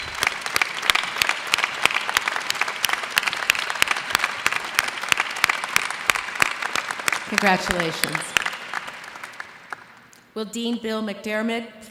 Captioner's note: applause